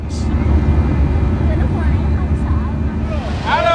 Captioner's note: plane engine running; people speaking Vietnamese